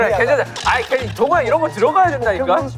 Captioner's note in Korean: 말다툼